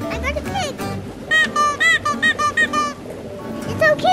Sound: toy squeaks

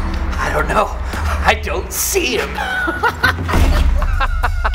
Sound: laughs

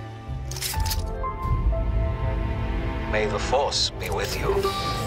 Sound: robotic snapping

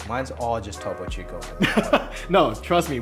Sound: laughter

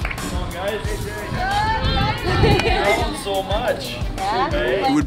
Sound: crowd cheering

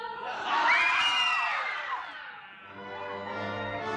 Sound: argghhhhhhhh

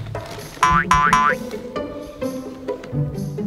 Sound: boing

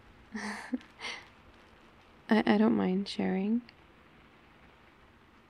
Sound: laughs

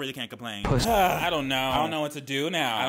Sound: man groans

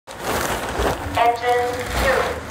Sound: suit crinkling

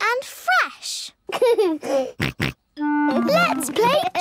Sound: giggles, snorts

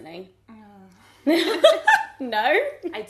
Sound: laughing

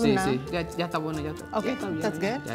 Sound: speaking in foreign language

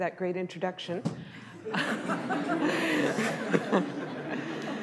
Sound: laughter

